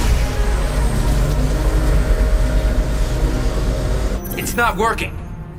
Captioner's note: electrical humming